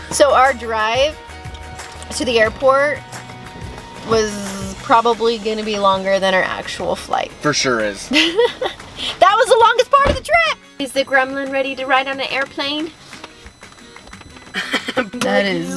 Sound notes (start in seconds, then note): 8.1 laughing; 14.5 laughing